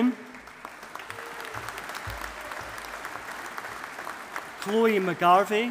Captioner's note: audience applauding